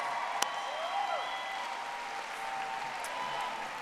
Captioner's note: audience applauding